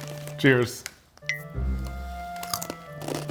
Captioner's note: Takis crunching; soft comical music; glasses clink